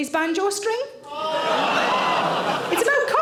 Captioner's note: audience groaning and laughing